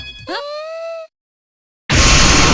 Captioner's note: surprised utterances